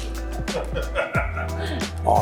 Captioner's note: laughing